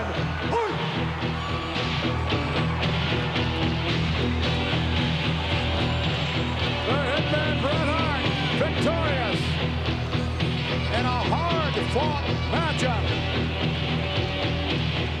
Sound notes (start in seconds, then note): 2.5 audience laughing; 2.5 upbeat music